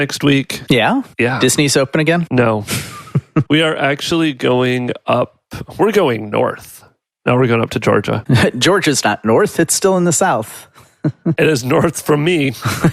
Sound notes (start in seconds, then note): 2.7 chuckles